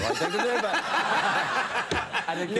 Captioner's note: audience laughing